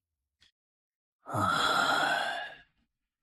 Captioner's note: sighs